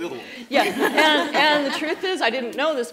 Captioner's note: laughing